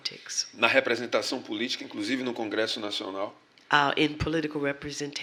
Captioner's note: speaking portuguese